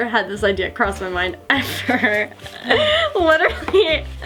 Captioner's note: laughing